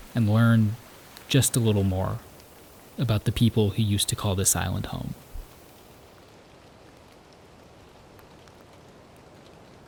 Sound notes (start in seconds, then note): 6.5 wind rustling